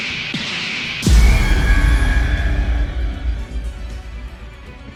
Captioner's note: all machine dragons roar